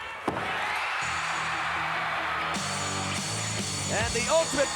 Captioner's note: audience cheering; upbeat music